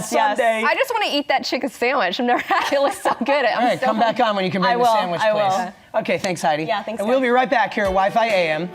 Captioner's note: laughter